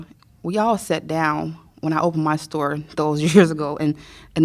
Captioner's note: laughter